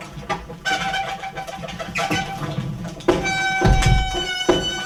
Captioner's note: wheel squeaks